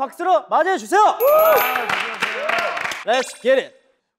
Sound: clap

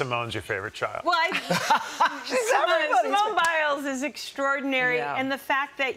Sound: laughter

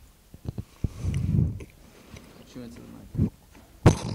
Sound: man chewing

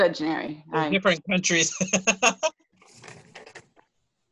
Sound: laughter

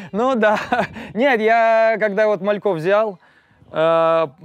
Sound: laughs

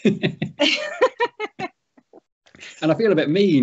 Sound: laugh

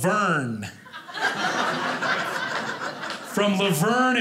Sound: audience laughing

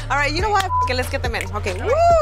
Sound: beeping; woman whooping

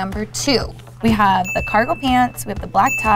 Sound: bell dings

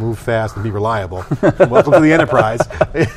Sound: laughing

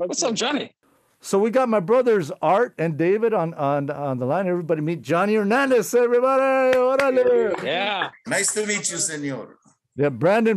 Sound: applause

